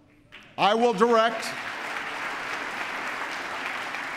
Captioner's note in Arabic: تصفيق